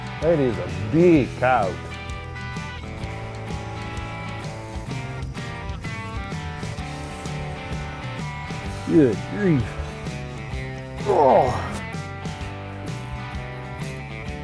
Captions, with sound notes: Hey there, that is a big coyote. Good grief. (grunts)